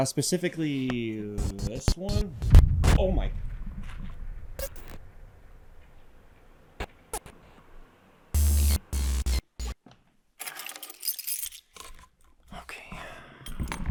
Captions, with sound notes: specifically this one. Oh my. (static crackling) (keys clang) Okay.